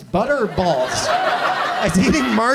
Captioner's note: audience laughs